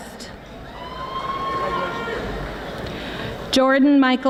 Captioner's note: audience applauding